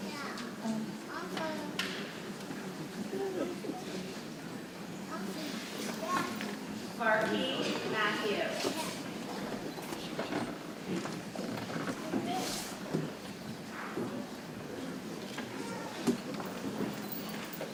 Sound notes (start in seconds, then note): 9.9 people chattering softly